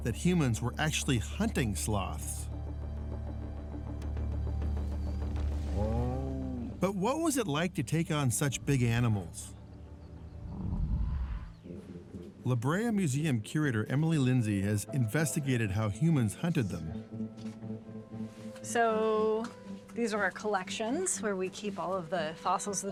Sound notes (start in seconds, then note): 5.7 sloth grunts; 10.4 sloth growls